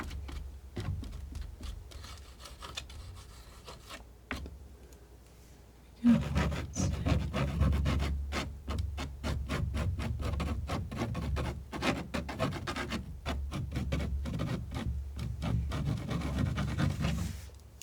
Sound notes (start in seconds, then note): 0.0 scratching; 6.0 scratching; 17.2 scratching